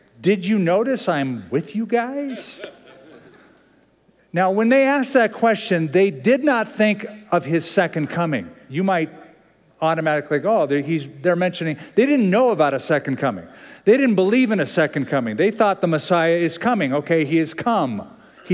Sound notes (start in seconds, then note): 2.2 laughter